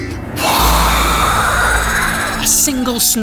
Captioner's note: whoooooosh!